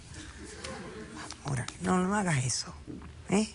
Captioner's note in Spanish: risas